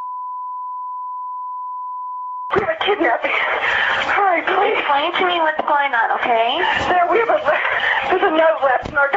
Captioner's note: 911 call